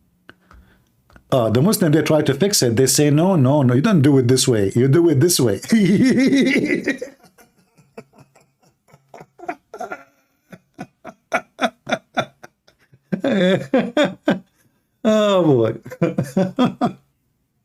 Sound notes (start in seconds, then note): 8.9 Ketawa